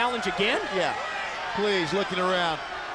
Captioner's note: crowd cheering